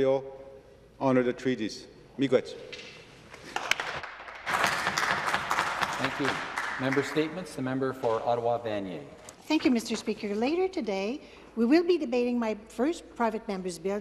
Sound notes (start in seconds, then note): 6.4 some Applause